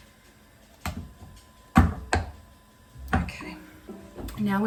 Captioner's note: thuds